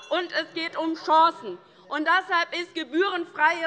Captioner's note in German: Unruhe - Glockenzeichen der Vizepräsidentin